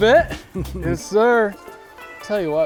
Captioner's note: laughs